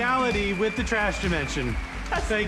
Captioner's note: audience cheers, applauds